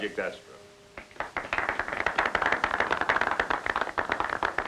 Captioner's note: applause